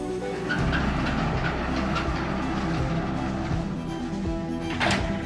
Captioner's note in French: grincement de porte